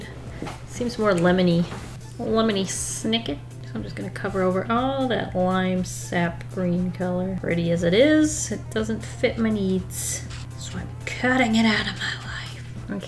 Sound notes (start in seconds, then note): none